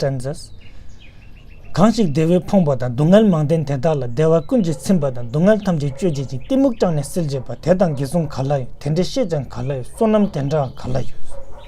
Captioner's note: tibetan